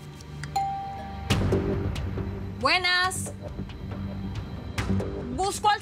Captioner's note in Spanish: Timbre de la puerta